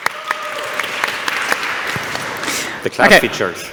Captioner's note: applause